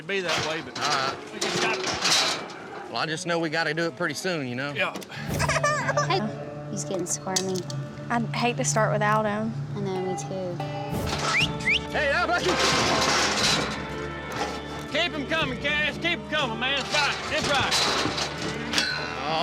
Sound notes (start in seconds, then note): 6.6 whining; 11.2 whistling, shouting